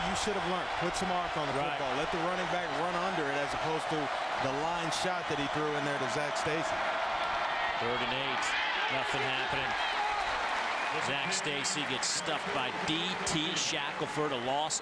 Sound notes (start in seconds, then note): 2.6 crowd noise